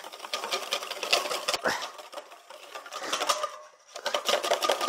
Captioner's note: whisk clanging